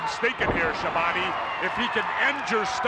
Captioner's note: audience cheers